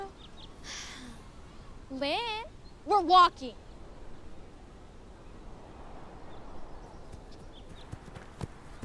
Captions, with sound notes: -[Lynne chuckles] -Lynne, we're walking.